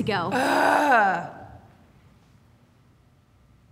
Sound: groaning

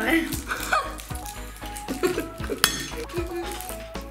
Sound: giggles

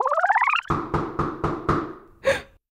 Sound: knocking

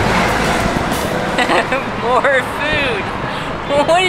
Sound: laughs

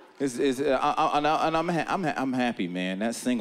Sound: stammering

